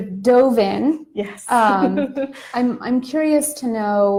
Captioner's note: laughing